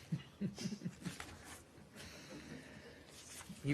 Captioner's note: laughter